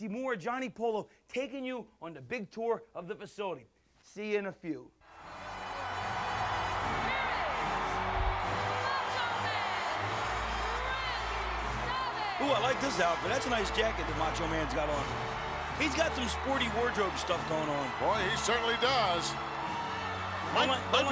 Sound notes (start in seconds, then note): 12.1 crowd cheers